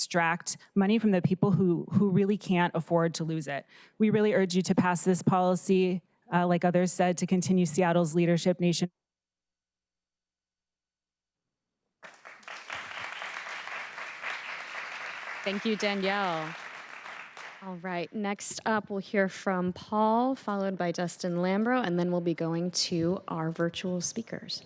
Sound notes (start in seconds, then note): 14.0 applause